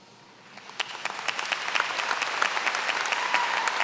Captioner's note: applause